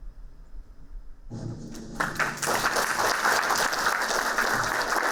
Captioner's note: applauding